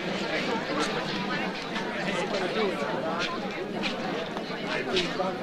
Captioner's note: overlapping chatter